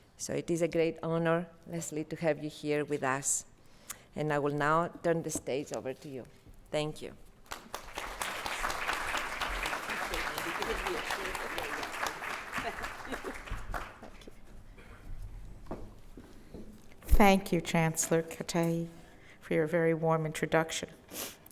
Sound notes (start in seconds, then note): 7.4 applause